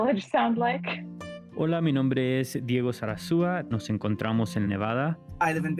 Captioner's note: Spanish